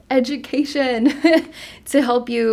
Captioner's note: chuckles